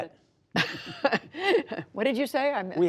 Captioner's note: laughter